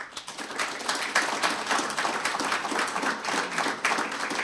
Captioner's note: audience applauding